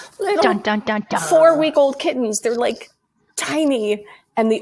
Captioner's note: laughs